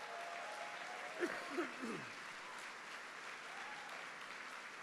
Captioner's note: applause